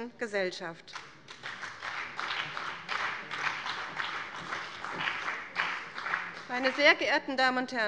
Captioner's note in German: Beifall bei dem BÜNDNIS 90/DIE GRÜNEN und der CDU